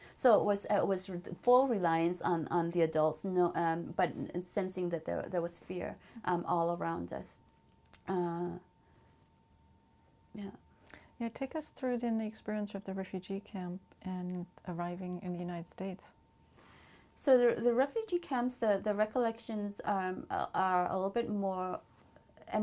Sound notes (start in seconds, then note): 7.4 pauses for 3 seconds